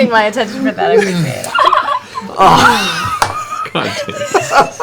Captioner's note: laughter